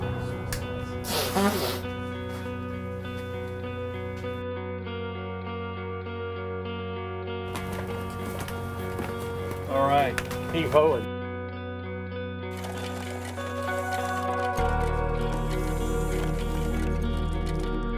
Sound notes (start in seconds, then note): 1.0 blows nose